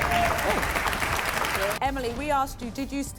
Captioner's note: audience applauds